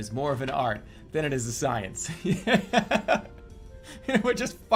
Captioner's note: laughs